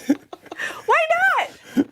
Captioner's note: laughter